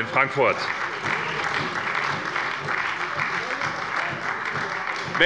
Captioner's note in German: Beifall bei der SPD